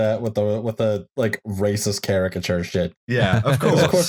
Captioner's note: laughter